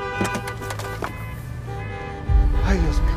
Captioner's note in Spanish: Claxon